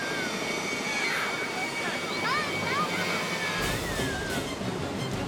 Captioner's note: spectators screaming